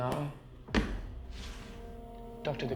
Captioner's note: wallet sliding